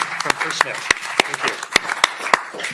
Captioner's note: applause